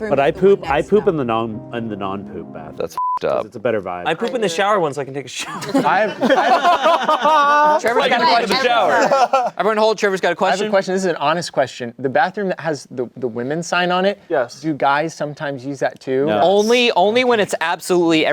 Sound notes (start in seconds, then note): 2.9 beep; 5.4 everyone laughing